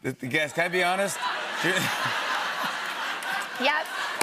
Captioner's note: laughter